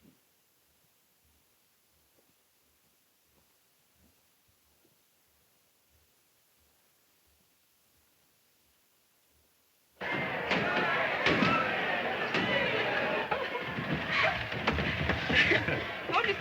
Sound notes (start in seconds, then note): 10.0 people cheering; 10.1 balloons popping; 15.2 Mary laughs